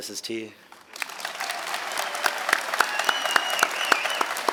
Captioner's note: audience clapping